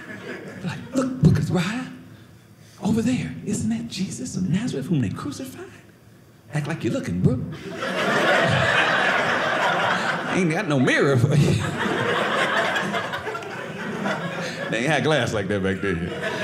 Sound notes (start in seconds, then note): 7.8 audience laughing; 11.5 audience laughing